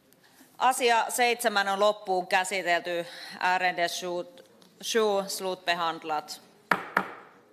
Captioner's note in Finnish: nuijan kopautus